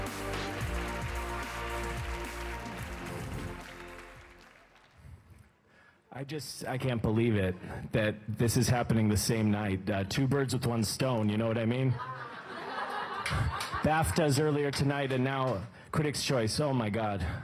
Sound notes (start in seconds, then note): 2.1 applause